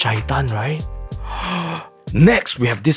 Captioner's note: gasps